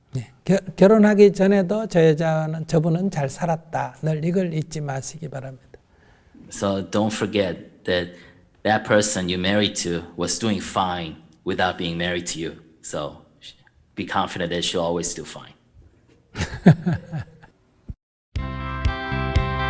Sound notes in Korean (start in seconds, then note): 16.3 스님 웃음